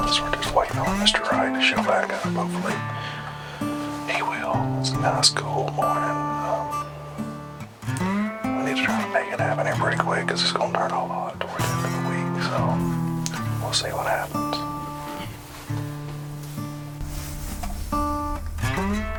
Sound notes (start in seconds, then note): 10.9 whispering; 16.2 country music